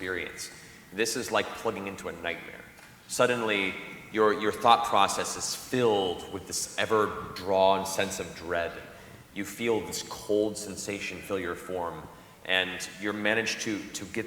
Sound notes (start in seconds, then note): none